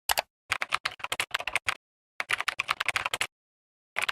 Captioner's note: typing